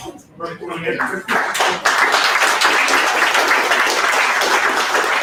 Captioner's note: audience applause